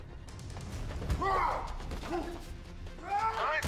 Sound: grunting

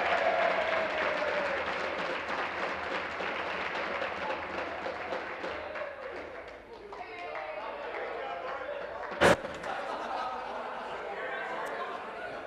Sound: applause

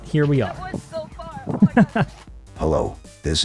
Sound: laughter

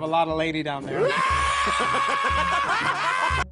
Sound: latrice laugh

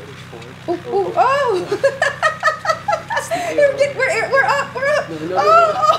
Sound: laughs

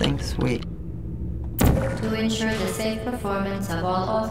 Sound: gun zaps

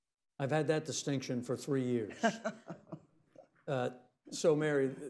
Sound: laughs

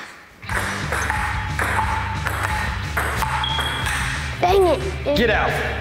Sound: ping-pong ball clanging

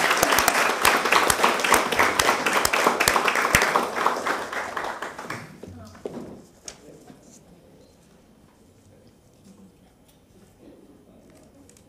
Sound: applause

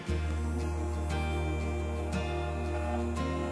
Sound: buzz

